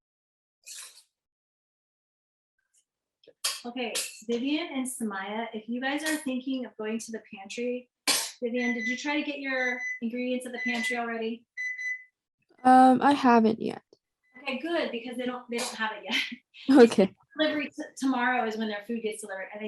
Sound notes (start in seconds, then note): 11.6 beeping